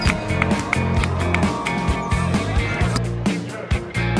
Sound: applause

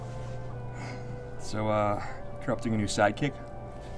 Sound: none

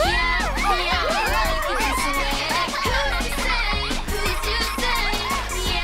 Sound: all cheering and laughing

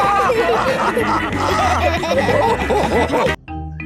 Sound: all laughing

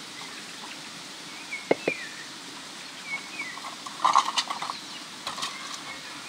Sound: birds singing

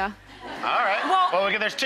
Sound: audience laughing

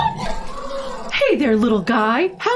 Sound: squeals

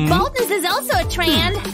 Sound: none

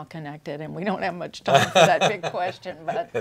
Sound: laughs

